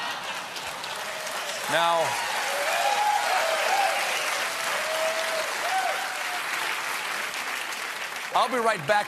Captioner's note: laughter; applause